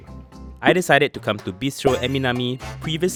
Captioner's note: voiceover